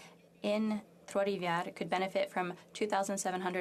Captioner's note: speaking French